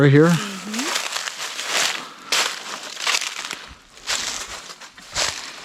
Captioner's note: leaves crunching